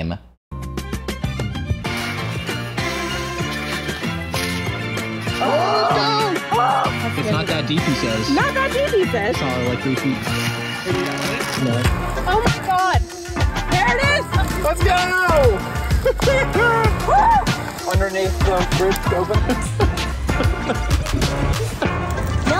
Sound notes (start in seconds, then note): 4.3 scraping sound; 5.4 excited screams; 10.0 rustling sound; 16.8 excited screams